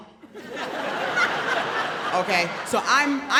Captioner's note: audience laughs